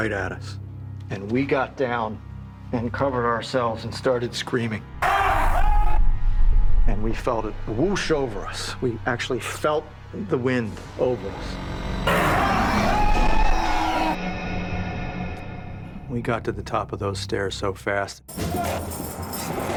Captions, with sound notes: And we got down and covered ourselves and started screaming. [screams] And we felt it whoosh over us. We actually felt the wind over us. [screams] [roars] We got to the top of those stairs so fast.